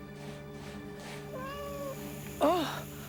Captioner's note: cat meows